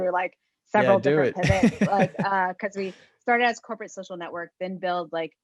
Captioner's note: laugh